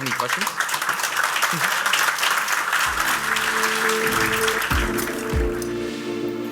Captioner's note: applause